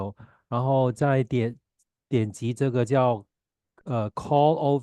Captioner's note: chinese interpreter speaking Chinese